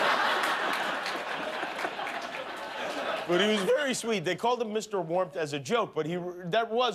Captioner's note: laughter